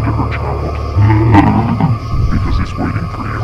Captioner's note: evil laugh